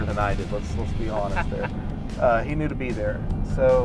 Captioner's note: laughing